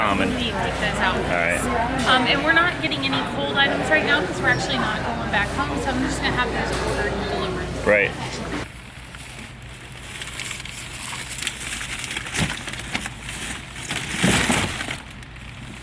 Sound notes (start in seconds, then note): 11.5 bag rustling noises